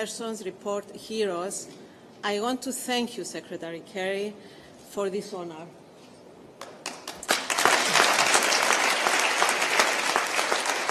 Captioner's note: applause